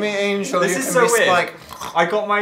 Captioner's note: snort